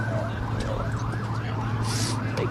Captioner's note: sirens